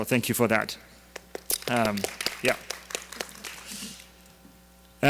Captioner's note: audience applause